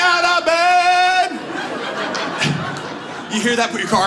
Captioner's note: audience laughs